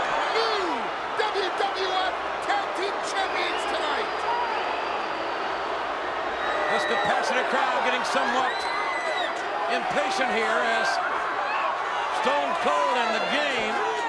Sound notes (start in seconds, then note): 3.0 applause